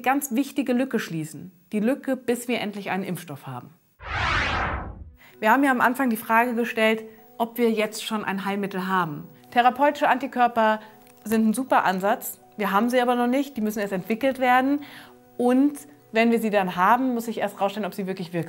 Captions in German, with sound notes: ich eine ganz wichtige Lücke schließen: Die Lücke, bis wir endlich einen Impfstoff haben. [Soundeffekt] Wir haben ja am Anfang die Frage gestellt, ob wir jetzt schon ein Heilmittel haben. Therapeutische Antikörper sind ein super Ansatz, wir haben sie aber noch nicht. Die müssen erst entwickelt werden und wenn wir sie dann haben, muss sich erst herausstellen, ob sie wirklich